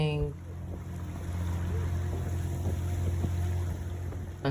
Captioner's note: engine rumbling